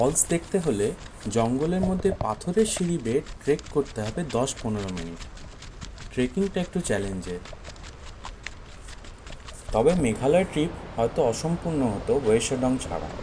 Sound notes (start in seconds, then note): 7.1 sound of steps